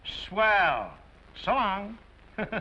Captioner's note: chuckles